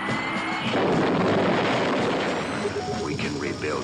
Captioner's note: booming